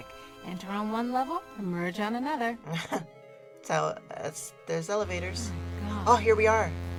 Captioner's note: laughs